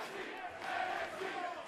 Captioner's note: fans chanting